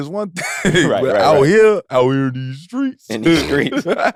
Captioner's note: laughs